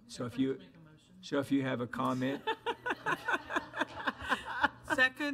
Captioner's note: board laughs